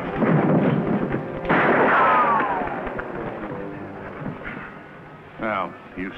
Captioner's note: gun firing